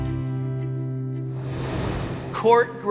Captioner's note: air swooshing